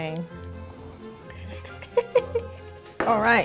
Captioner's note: squeaks; laughter